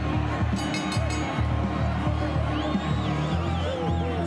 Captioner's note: bell chimes